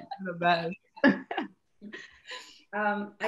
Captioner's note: laughing